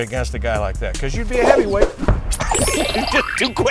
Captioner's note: punches swooshing; laughing